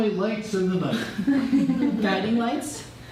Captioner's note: laughter